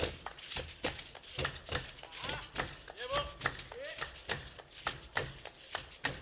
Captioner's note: hands clapping and beads rattling